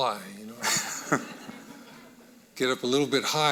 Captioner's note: audience laughing